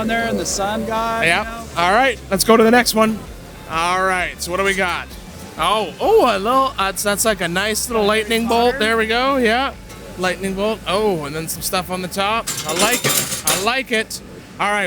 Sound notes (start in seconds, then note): 12.4 chains clunking